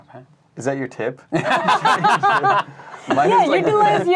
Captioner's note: laughing